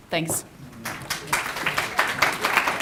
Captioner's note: applause